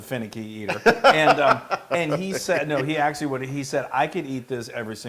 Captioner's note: laugh